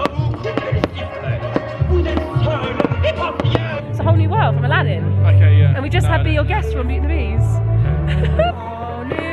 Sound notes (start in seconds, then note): 0.0 fireworks pop; 0.7 french song plays